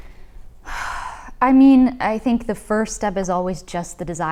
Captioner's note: exhales